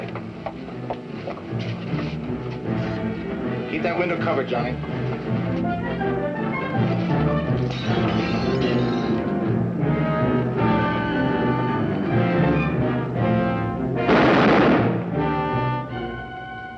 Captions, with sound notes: THIS WAY. KEEP THAT WINDOW COVERED, JOHNNY. [ GLASS SHATTERS ] [ GUNSHOT ]